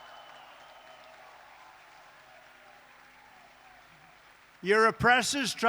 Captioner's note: applause